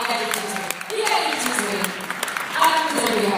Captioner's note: applause